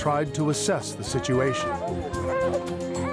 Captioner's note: girl crying